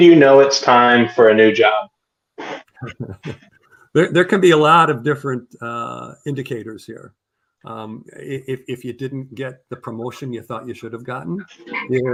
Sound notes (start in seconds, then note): 2.8 laughter